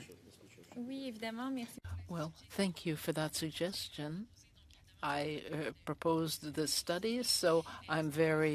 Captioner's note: speaking French